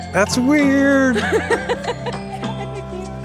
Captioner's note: laughter